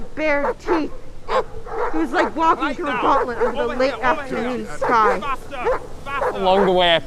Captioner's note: dogs barking off stage